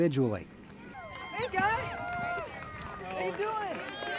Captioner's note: cheering